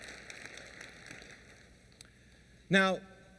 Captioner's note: applause